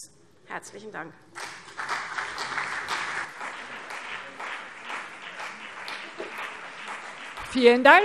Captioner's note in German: Beifall CDU und vereinzelt BÜNDNIS 90/DIE GRÜNEN